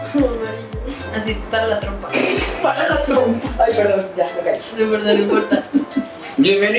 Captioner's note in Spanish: risas